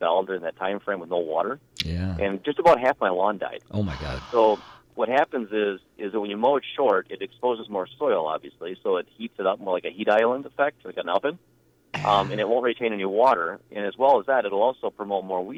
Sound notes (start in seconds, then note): 3.8 gasp